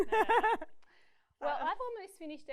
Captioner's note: laughs